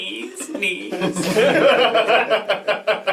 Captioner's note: all laugh